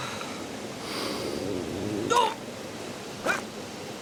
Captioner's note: stomach growls